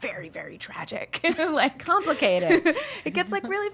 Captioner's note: laughing